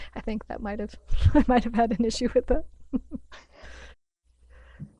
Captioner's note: laughs